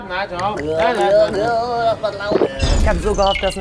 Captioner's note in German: Ekelgeräusche